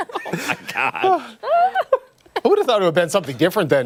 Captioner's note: laughter